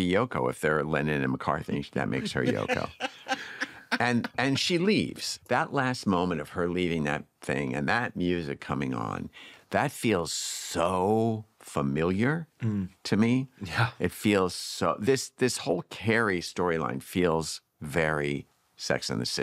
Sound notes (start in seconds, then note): 1.7 laughing